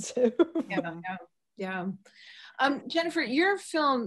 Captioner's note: laughs